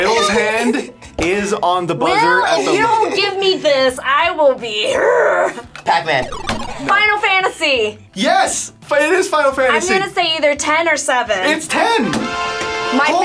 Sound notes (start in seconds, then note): 5.2 growls